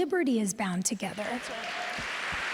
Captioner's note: applause